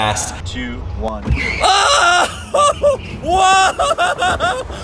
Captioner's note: host yells